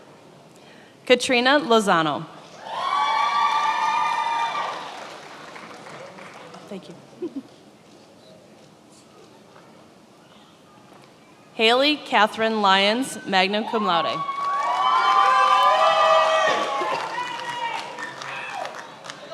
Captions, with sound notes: Katrina Lozano. (attendees applauding) Thank you. Haley Catherine Lyons, magna cum laude. (attendees applauding)